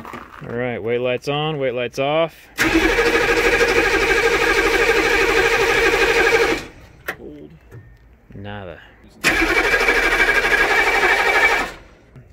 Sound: engine sounds; more engine sounds

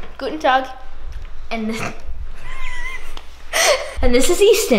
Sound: laughing

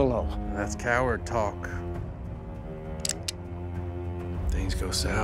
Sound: cocks gun

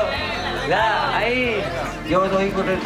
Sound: crowd chatter

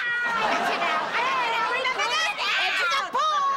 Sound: both arguing

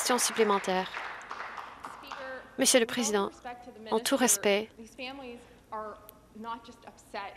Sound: some Applause

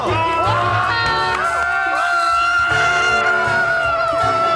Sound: screaming

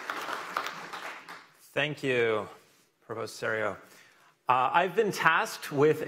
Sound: applause

